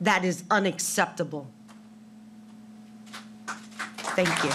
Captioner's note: applause